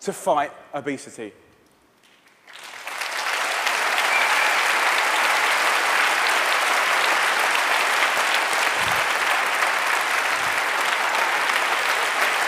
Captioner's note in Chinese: 掌聲